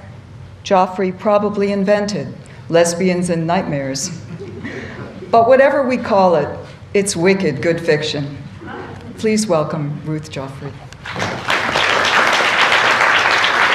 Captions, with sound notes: Joffre probably invented lesbians and nightmares but whatever we call it it's wicked good fiction please welcome Ruth Joffrey [Applause]